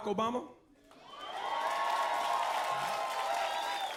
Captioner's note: cheering